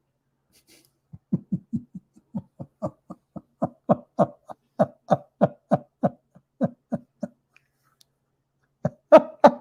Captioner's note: Ketawa